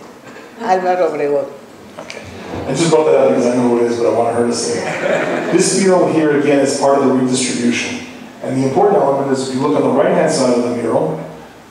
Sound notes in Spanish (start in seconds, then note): 4.7 Laughing